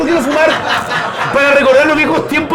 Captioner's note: laughs